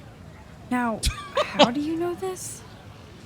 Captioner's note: laughs